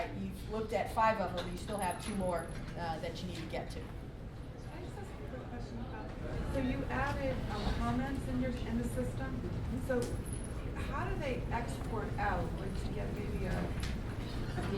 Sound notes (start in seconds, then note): 4.8 voiceover